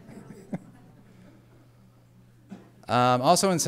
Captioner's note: laughter